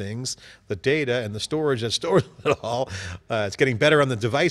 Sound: laughs

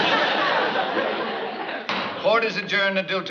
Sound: bang

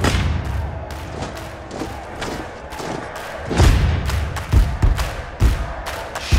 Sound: marching, crowd roaring

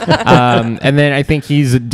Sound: laughter

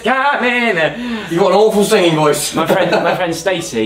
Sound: laughs

